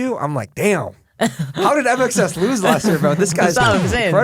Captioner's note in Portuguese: risos